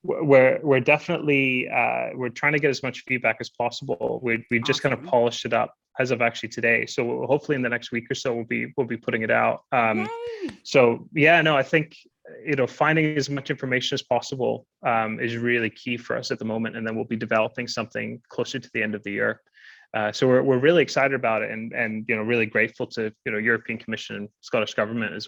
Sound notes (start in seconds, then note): 10.2 claps